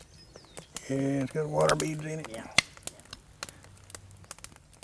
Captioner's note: voiceover